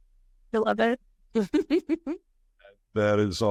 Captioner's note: chuckling